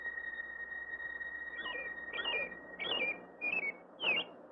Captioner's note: bird chirping